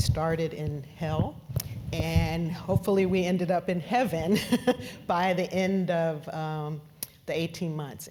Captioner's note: laugh